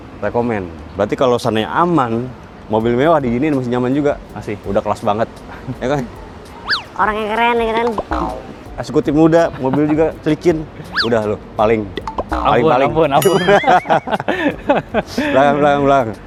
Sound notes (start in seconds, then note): 13.2 laughter